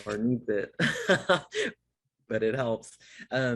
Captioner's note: laughs